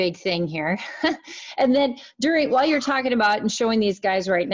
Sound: laughs

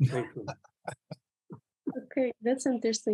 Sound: laughter

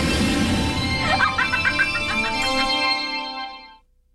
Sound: laughs

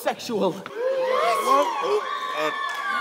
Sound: gasps

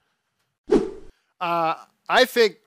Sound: air whooshes

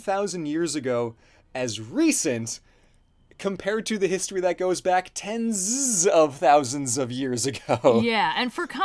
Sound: laughs

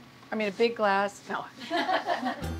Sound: laughter

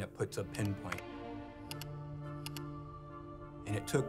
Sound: mouse clicking

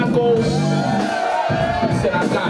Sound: audience cheering

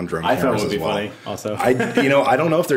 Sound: laughs

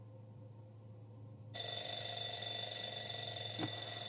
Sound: alarm clock ringing

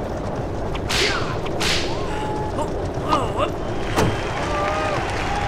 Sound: whip cracking; Lucius urging horses on; applauding

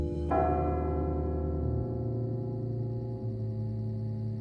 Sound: clock chimes

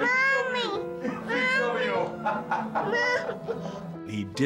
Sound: laughs

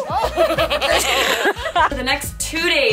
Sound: laughing

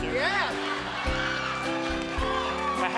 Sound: laughs

